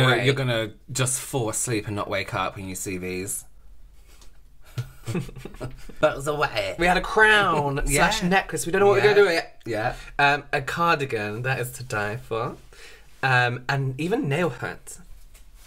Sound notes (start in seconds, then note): 3.6 threatening Voice